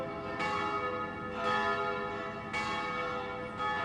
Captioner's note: bells ringing